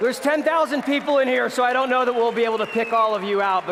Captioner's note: applause